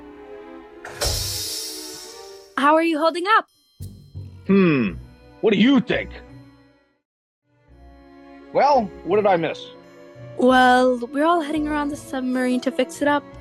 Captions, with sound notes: *doors open* How are you holding up? Hmm, what do you think? Well, what did I miss? Well, we're all heading around the submarine to fix it up.